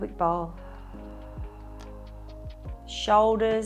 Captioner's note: exhales